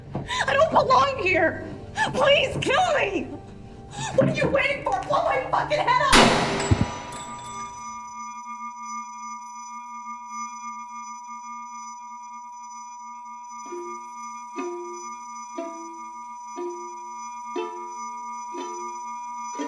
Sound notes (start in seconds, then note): 6.1 gunshot; 8.4 ringing